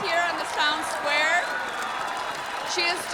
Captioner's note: crowd cheering